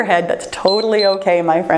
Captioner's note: timer beeps